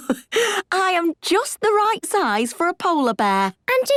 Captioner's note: laughs